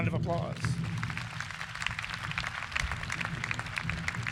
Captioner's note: crowd applauds